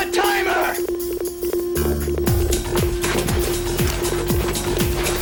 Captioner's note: intense beeping